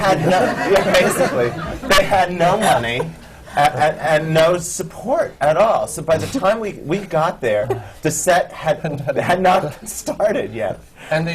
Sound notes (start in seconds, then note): 0.0 laughter; 7.5 laughs